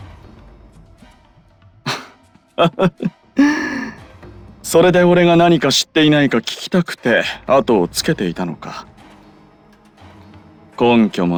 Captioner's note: laugh